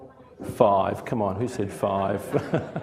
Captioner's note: laughs